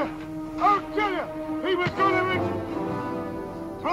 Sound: thudding

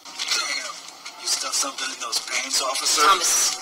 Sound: voiceover

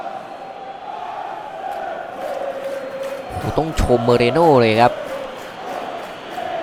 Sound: applause

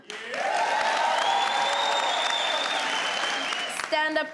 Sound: crowd cheering

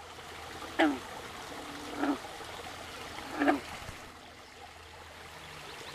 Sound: frogs croaking

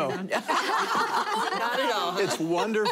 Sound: laughing

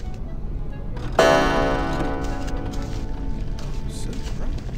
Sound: clock chimes

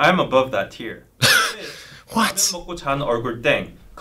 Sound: laughs

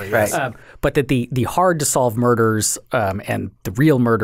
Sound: laughing

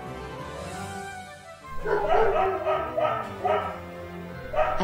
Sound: dogs barking

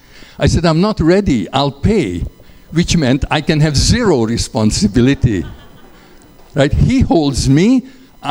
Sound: laughter

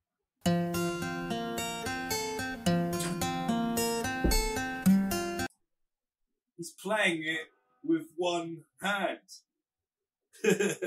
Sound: laughs

